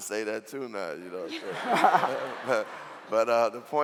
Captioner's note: laughing